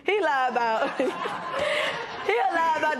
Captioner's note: laughter